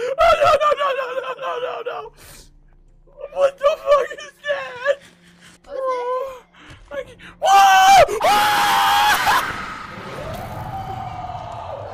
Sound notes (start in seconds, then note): 7.4 yells; 7.4 screams; 10.2 monster roars